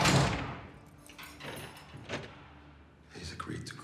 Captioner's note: lock clicks; door slams